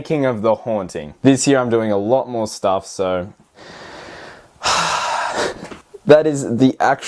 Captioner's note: sigh